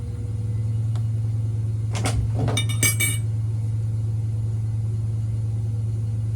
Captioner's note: it's a little noisy because I'm running the washing machine